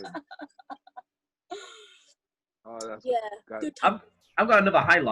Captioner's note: laughing